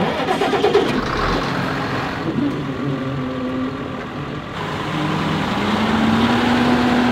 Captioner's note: engine starts